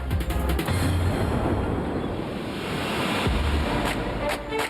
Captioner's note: waves splash; upbeat music plays